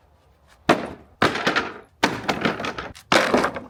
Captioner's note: slabs thudding